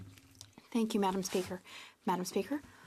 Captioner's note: speaking French